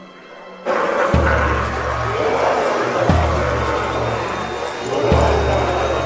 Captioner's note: ominous music; demonic roars and snarls